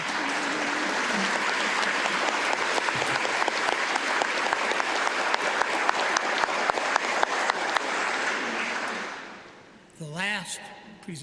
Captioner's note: applause